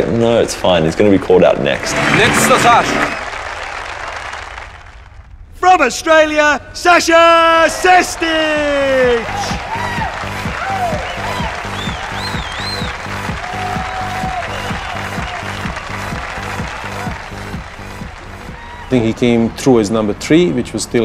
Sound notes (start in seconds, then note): 8.7 cheers and applause